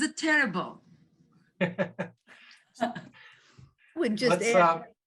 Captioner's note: laughing